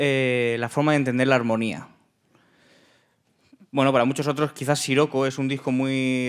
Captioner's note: speaking in Spanish